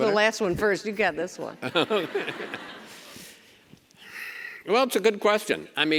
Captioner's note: Chris laughs